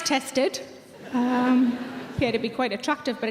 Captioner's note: audience laughing